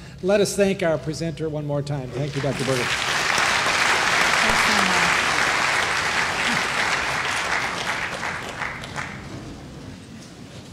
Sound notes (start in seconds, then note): 9.1 applause